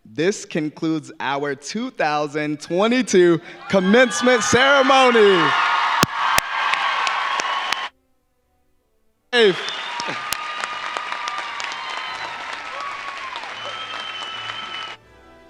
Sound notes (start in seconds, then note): 3.6 audience cheering; 4.9 audience applauding